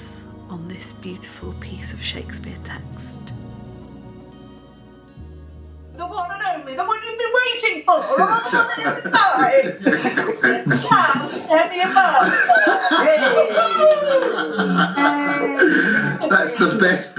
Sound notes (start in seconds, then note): 11.7 laughter, 'Woo hoo', 'Yay'